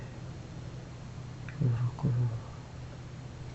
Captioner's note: foregin language